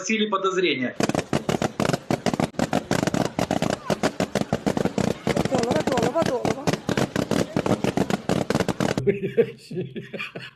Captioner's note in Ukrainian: звук повітряних кульок, що лопаються; сміх, оплески